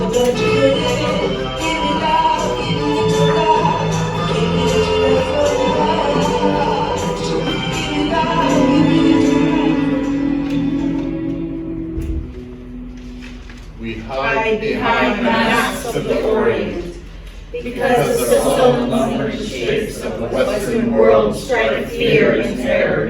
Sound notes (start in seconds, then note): 10.1 low ringing; 14.1 in Unison